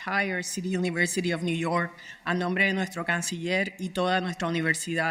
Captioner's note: speaking Spanish